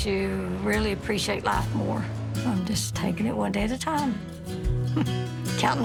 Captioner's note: chuckles